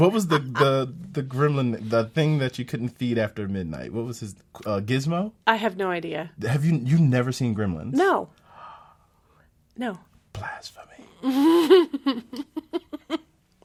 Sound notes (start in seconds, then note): 9.7 gasps; 11.2 laughs